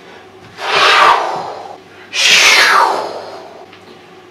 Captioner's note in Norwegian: svooosj!!